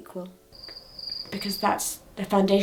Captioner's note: crickets chirping